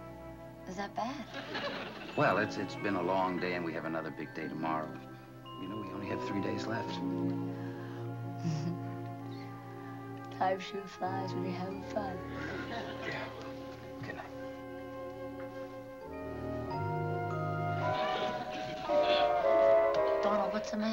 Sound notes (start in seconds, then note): 8.4 chuckles; 11.8 yawns